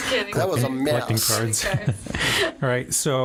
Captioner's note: laughing